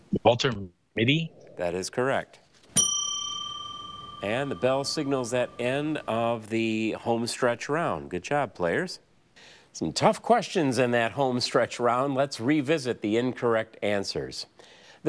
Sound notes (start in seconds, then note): 2.7 bell dings